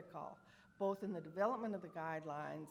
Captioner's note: siren screeching